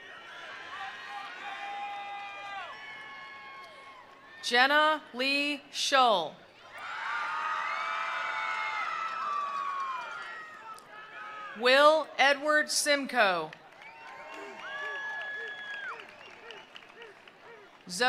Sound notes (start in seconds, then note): 0.0 attendees cheering; 1.4 attendees applauding; 6.5 attendees applauding; 6.6 attendees cheering; 13.6 attendees applauding; 13.6 attendees cheering